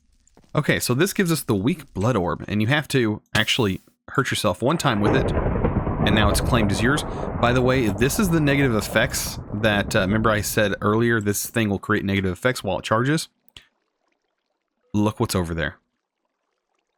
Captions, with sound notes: Okay, so this gives us the weak blood orb, and you have to actually hurt yourself one time with it And now it's claimed as yours (thunder crashing) by the way. This is the negative effects that remember I said earlier this thing will create negative effects while it charges Look what's over there